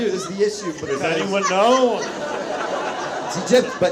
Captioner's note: audience laughs